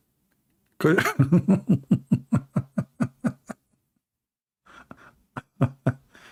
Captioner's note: Ketawa